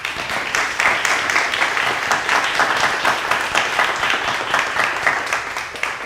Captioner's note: audience applauds; speakers applaud